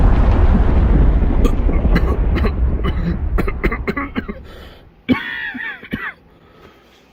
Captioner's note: large explosion; coughing